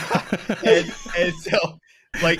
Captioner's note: all laughing